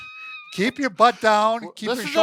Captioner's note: laughs